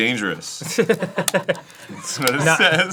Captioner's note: laughing at ger